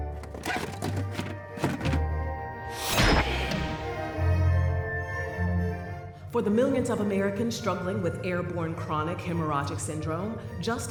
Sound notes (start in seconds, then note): 0.0 box scraping; 3.0 door sealing; 3.0 trash ejecting